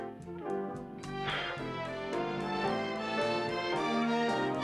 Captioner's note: blows